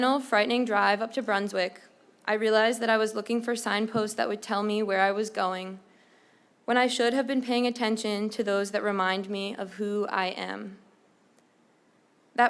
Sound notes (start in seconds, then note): none